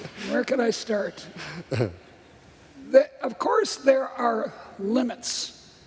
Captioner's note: laughter